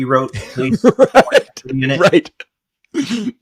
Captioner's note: laughs